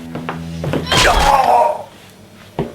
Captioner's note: groans